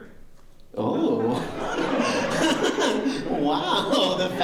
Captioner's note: laughter